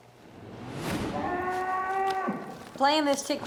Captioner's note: cow moos loudly